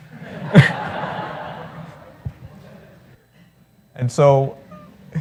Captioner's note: laughter